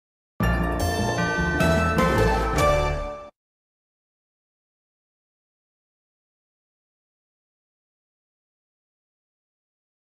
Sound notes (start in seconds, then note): 0.4 upbeat orchestral music; 3.6 silence